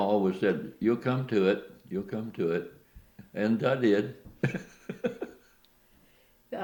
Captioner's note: laughs